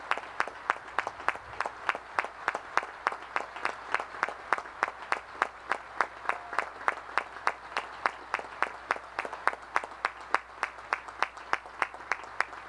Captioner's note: applause